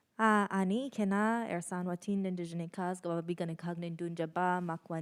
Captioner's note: speaks in Ojibwemowin